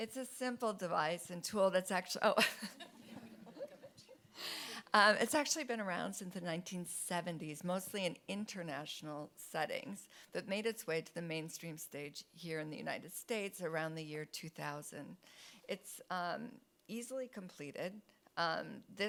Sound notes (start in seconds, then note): 2.4 chuckles